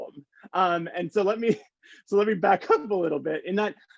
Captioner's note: chuckles